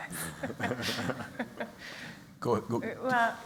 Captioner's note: laughter